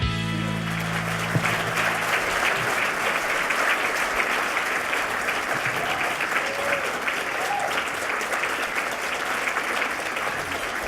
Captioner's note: clapping